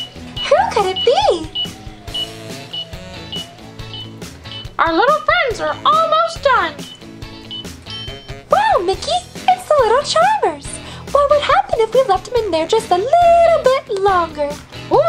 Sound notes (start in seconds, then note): 0.0 timer beeps; 1.4 timer beeps; 7.9 bell dings